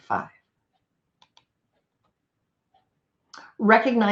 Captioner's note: computer mouse clicks